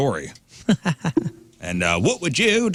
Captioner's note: laughing